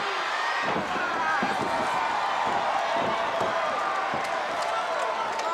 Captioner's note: audience cheering continues; wrestlers grunting